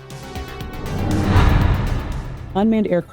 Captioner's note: whoosh sound effect